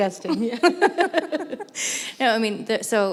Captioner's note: laughter